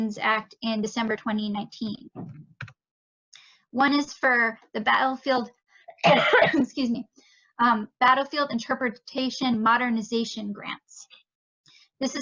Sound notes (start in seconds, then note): 5.9 coughs